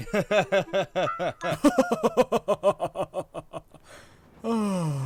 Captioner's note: both chuckle